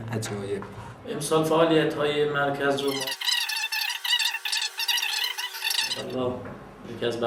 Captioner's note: fast-forwarded speech